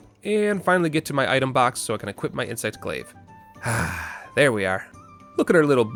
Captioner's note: sigh